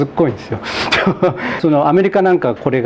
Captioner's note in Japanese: 笑い